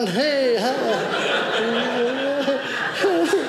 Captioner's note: audience laughing